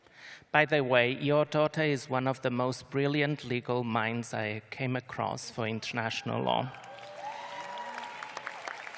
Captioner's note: cheers and applause